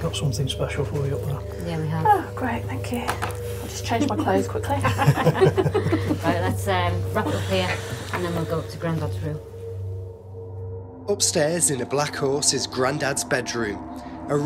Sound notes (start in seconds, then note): 4.8 laughing